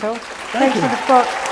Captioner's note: applause